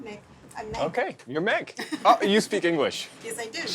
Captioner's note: laughs